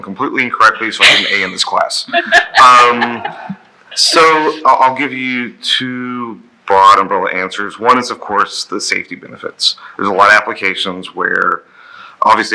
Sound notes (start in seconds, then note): 2.0 laughing